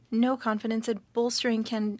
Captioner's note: speaking French